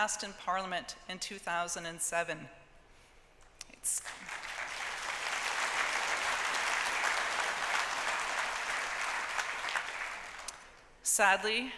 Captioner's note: applause